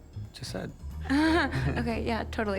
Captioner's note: chuckles